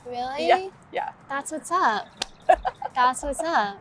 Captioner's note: laughs; high five slaps